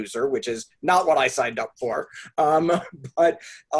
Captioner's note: chuckles